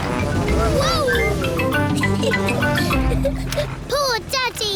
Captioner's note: giggles